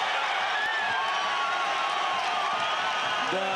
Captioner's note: cheering